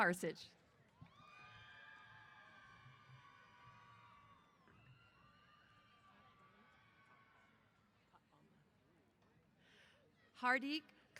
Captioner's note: cheers